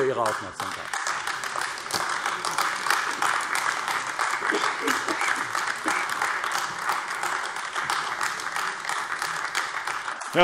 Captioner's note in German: Beifall AfD